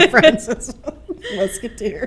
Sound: laughing

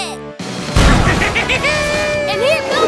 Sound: laughing

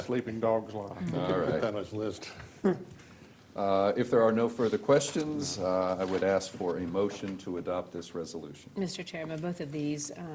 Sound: laughter

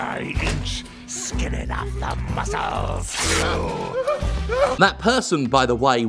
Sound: prisoner exclaims; fabric rips, prisoner cries

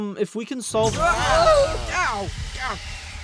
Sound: they scream

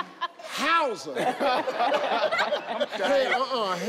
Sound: contestants laugh

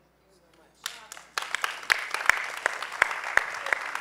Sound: applause

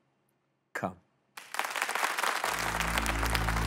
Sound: applause

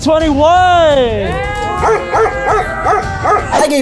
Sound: cheering

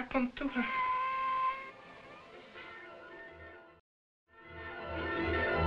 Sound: cat meowing; dramatic music

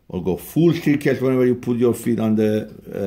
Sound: none

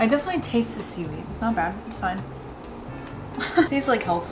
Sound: laughs

